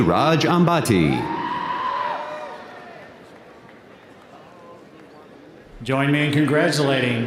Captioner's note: audience cheering; audience applauding